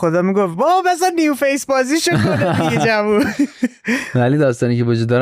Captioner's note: laughs